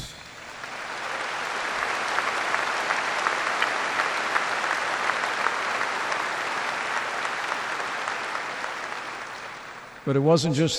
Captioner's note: applause